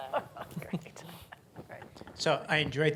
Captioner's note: laughs